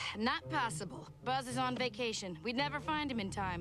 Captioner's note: sighs